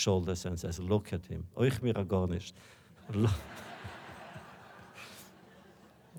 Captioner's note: Yiddish; laughter